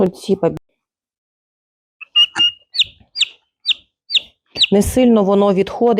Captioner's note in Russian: писк индюшонка